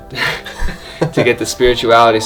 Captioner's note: laughing